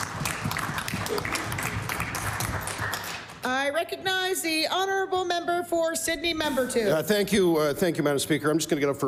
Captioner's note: applause